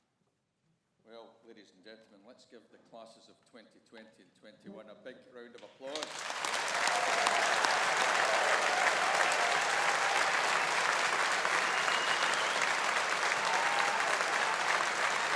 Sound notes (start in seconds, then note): 5.9 audience applauding; 6.0 audience cheering